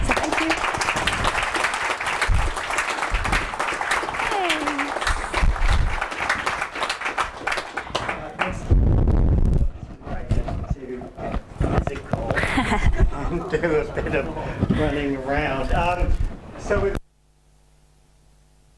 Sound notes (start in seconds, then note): 1.7 applause